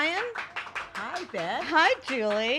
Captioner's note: applauding